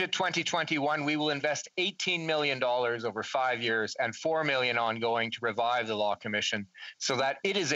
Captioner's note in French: voix de l'interprète